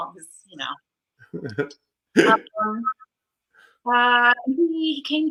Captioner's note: laughs